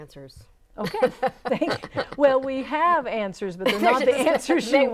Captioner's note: laughing